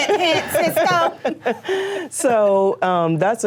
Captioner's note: laughter